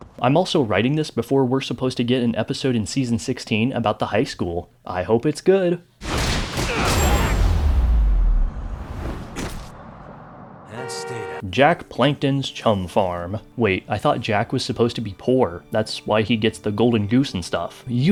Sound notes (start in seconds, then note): 6.0 thud thud BAM; 10.7 honkkkkkkk